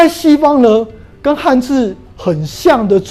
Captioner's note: chinese words